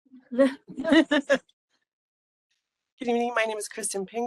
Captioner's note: laughing